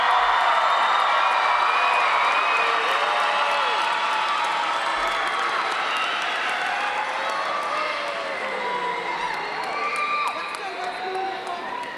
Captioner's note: more cheering and applause